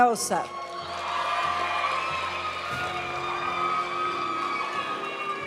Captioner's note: audience cheering and applauding; graduation music